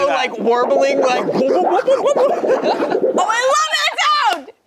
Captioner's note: warbling sound